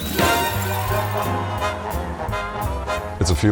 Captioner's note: lively music; crowd cheers